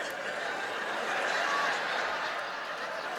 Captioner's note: laughter